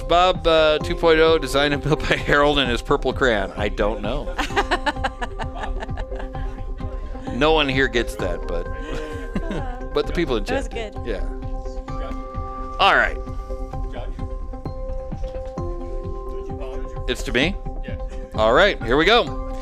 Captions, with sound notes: Was Bob 2.0 designed and built by Harold in his purple crayon? I don't know. (laughing) No one here gets that, but the people in general. That was good. Yeah. All right. It's to me? All right, here we go.